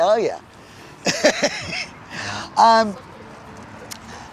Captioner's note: chuckling